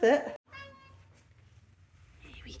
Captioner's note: meow